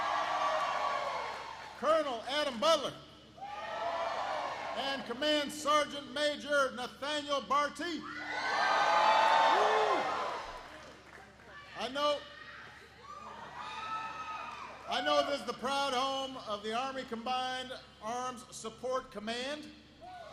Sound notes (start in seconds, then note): 0.0 applause; 3.7 applause; 12.7 applause